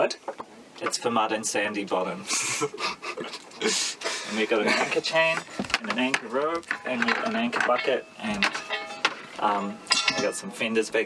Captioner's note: more giggling